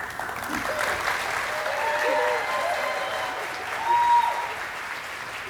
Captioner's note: audience applauding and cheering